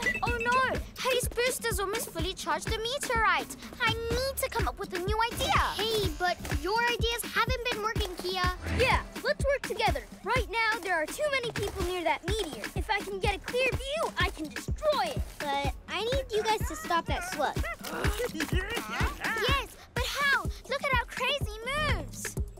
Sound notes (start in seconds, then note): 16.4 chuckles